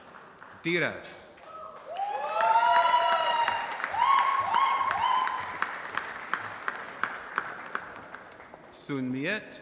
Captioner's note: applause